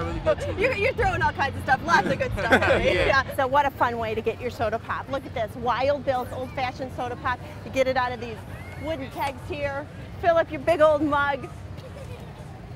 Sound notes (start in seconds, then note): 0.2 laughs; 1.9 laughter